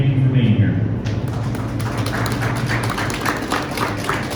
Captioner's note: clapping